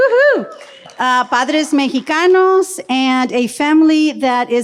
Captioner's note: speaks in foreign language